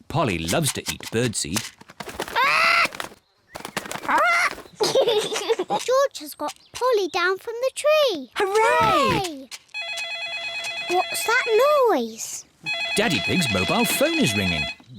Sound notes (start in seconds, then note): 4.3 giggles; 9.7 phone rings